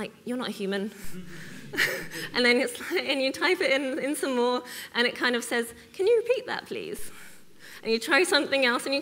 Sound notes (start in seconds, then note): 1.0 audience laughs